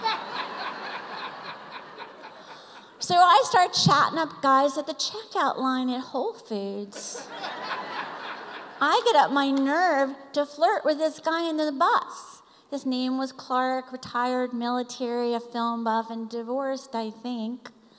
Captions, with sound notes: (laughter) So I start chatting up guys at the checkout line at Whole Foods. (laughter) I get up my nerve to flirt with this guy in the bus. His name was Clark, retired military, a film buff, and divorced, I think.